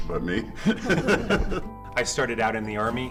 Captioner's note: laughter